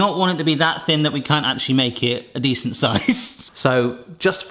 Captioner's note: laughing